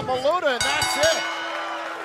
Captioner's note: bell ringing